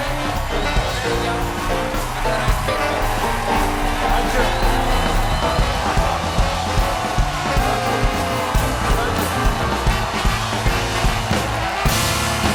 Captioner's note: band playing; cheers and applause